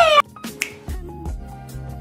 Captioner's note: inhales a laugh; snap